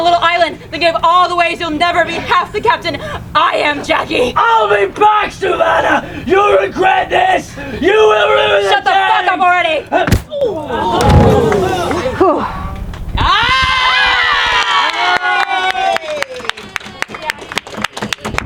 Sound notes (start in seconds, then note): 10.9 audience gasping; 11.0 sword thudding; 14.5 audience applauding